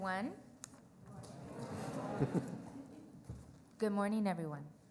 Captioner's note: crowd murmurs